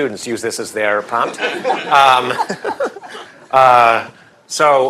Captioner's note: laughter